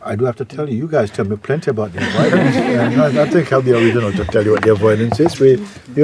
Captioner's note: laughter